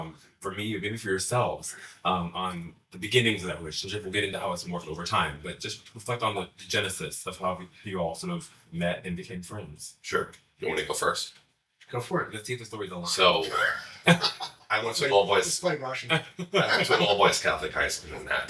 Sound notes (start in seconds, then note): 16.1 chuckle